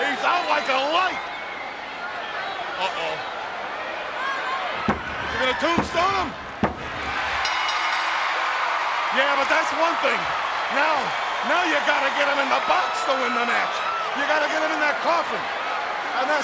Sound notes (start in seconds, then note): 7.0 bell rings; 7.2 audience cheers